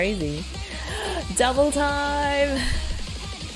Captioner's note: gasps